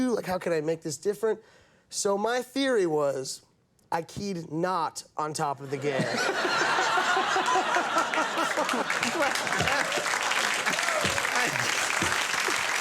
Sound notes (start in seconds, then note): 5.9 both laughing; 6.2 audience applauding